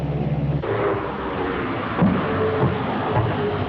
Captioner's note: clunky sound